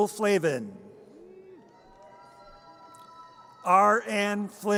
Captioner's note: audience cheers